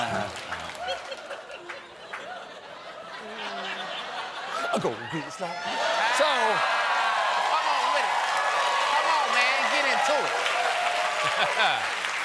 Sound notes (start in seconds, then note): 3.1 cheers and applause; 3.1 laughter